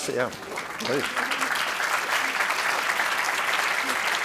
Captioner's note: audience applauding